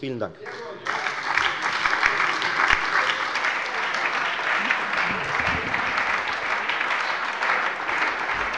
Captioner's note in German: Beifall bei der FDP, der SPD und bei Abgeordneten der LINKEN